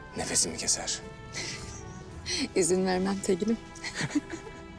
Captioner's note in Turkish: Gülme sesi; Gülme sesleri